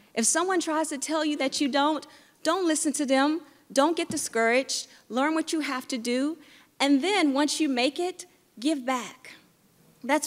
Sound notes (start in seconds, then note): none